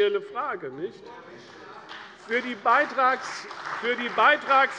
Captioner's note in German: Beifall bei der CDU und dem BÜNDNIS 90/DIE GRÜNEN